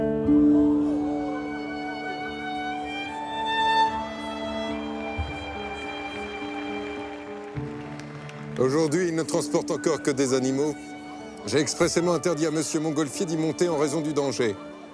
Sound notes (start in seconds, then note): 0.1 bright music; 5.1 crowd clapping; 8.6 bright music; 8.6 man speaking in French